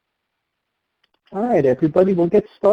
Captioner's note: voiceover